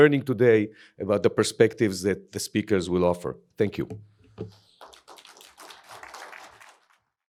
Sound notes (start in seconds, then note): 4.6 applause